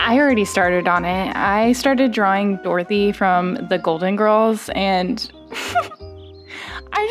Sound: giggly laugh

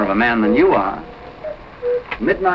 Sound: cuckoo sounding

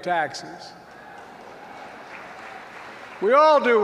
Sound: applause

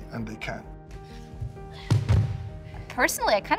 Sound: thump

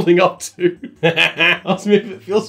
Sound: laughing

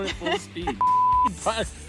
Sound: laughs

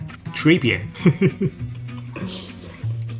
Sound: chuckles

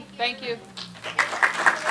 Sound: applause

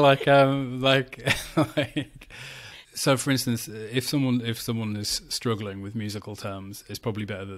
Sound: laughs

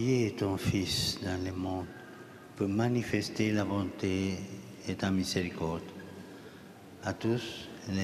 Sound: speaking Alternate Language

